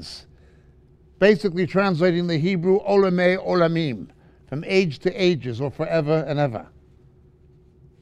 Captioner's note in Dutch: Hebreeuws